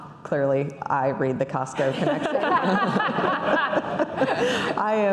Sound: laughing

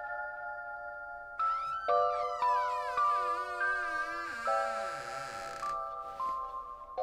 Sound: intro music; door creaks

